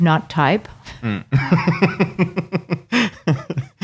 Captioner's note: laughing